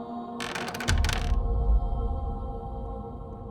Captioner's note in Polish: odgłos otwieranych skrzypiących drzwi